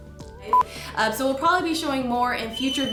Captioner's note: beeps